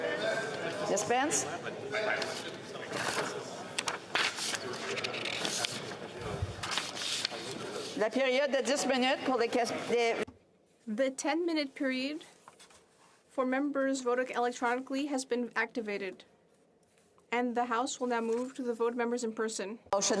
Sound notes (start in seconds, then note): 14.4 speaking French